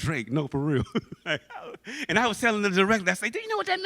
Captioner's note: laughs